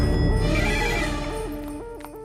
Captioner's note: Phone rings